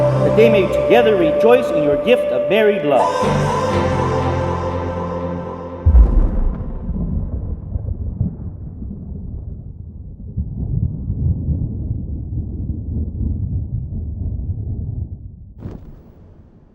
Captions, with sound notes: that they may together rejoice in your gift of married love. (upbeat music) (thunder rolling)